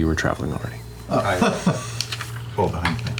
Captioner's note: laughter